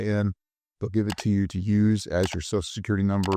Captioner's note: mouse clicking